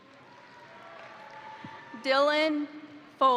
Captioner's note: crowd applauding; crowd cheering